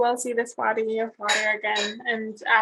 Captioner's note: metal clanging